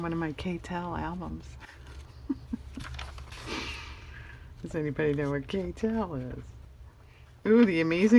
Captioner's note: laughs